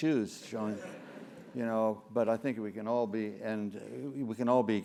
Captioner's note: laugh